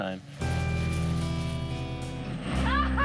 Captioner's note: plane engine hums